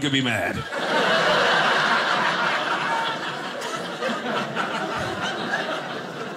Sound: audience laughing

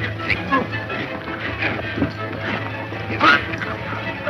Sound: men grunting

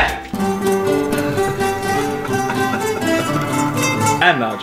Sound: laughs

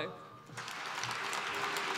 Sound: applause

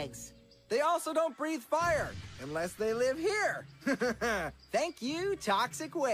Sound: evil laughter

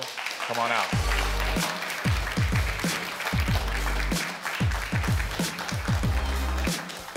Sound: audience applauds; upbeat music

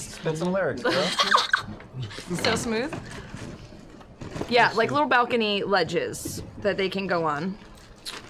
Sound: giggles

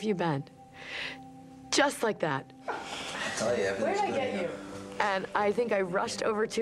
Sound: chatting

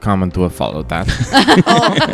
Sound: laugh

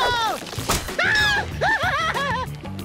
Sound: screaming

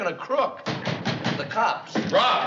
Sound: knocking

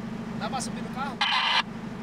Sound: radio noise

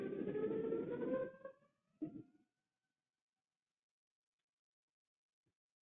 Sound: rumbling and siren-like wailing

